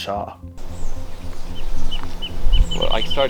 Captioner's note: birds chirping